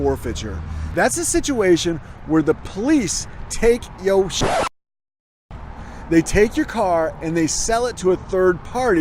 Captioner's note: record scratch